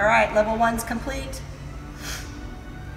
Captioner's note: none